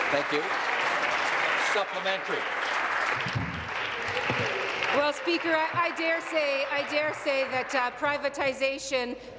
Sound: applause

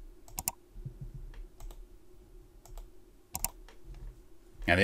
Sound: computer mouse click

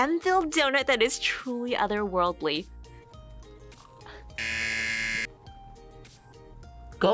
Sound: buzzer

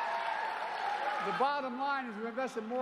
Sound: cheers and applause

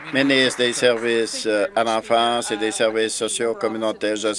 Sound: applause

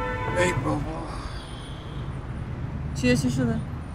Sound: message beeping

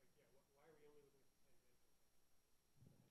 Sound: speaking faintly

